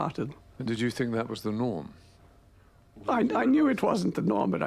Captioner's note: voiceover